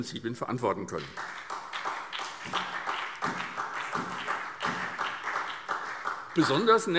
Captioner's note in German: Beifall SPD und vereinzelt BÜNDNIS 90/DIE GRÜNEN